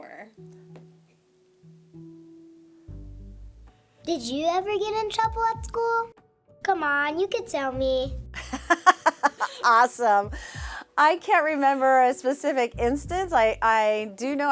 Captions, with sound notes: -All right. One more. Did you ever get in trouble at school? Come on, you could tell me. [laughter] -Awesome. I can't remember a specific instance.